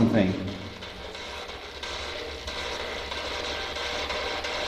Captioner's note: static buzzing